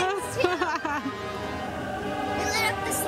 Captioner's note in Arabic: يضحك